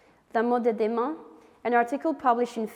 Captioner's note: speaking French